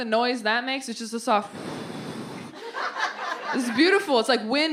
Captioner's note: blows into mic